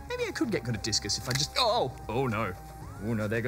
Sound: crack!

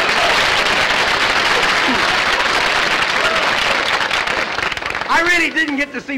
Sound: applause

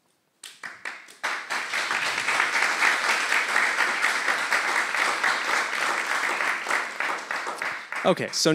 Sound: clapping

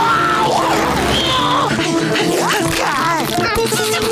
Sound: panting

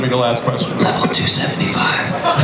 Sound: whispers; audience laughs

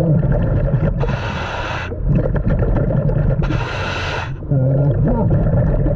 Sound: water bubbling; mouthpiece hissing

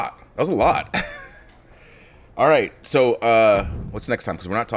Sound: laugh

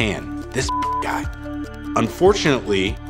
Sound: beeps

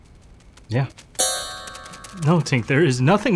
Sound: tink Bells

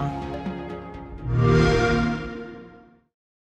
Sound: xbox sound

